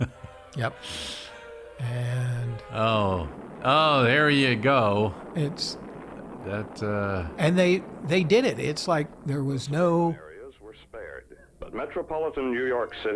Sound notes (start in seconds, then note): 0.0 laughs; 4.0 explosions blasting